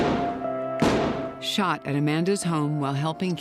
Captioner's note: gunshots